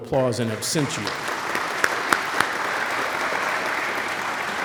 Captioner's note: audience applauds